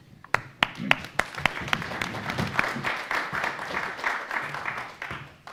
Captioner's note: audience applauds